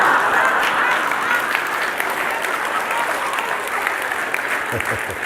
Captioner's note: risadas e aplausos